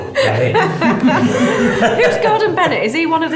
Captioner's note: laughing